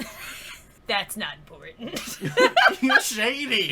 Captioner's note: lols from both